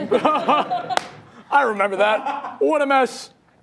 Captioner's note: audience laughing; laughs